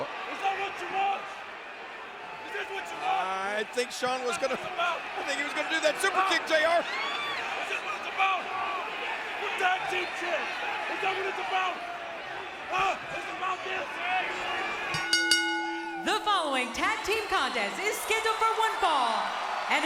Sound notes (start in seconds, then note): 6.5 crowd cheering; 14.9 bell ringing